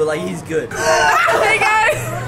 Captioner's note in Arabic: يضحك كلاهما